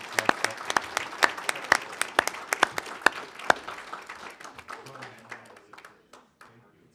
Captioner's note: applause